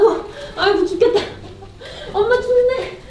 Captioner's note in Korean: 웃음